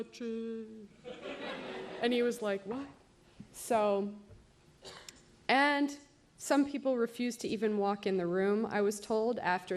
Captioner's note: laughter